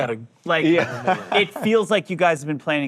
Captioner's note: group laughing